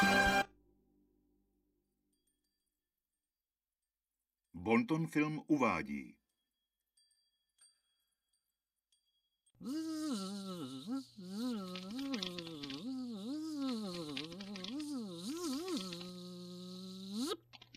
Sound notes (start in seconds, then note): 0.8 silence; 4.5 man speaking a European language; 9.6 buzzing; 14.6 buzzing finishes